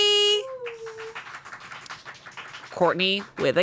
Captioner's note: crew applauds